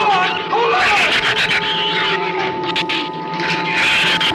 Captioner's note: shrews screech